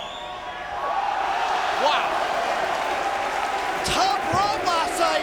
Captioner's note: audience cheering